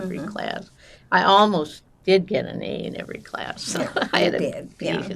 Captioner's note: laughing